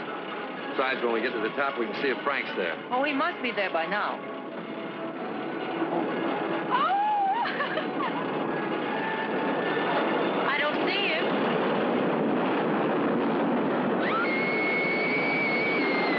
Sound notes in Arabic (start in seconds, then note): 7.3 ضحك; 14.0 صراخ